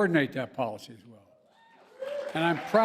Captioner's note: applause